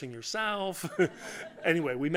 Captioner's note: laughter